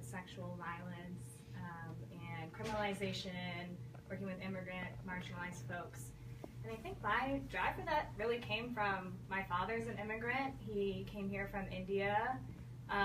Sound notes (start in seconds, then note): none